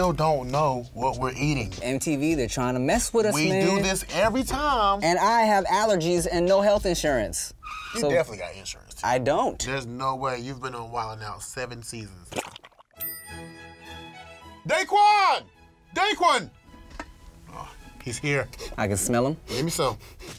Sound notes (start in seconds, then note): 10.9 bell dings; 10.9 classical music